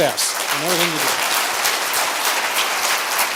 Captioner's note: applause